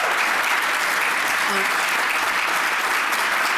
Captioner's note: applause